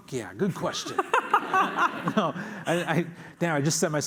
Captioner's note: laughter